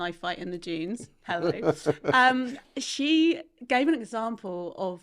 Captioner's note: laughing